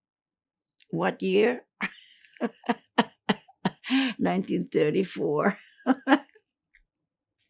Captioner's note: laughing